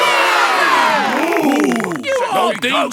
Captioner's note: applause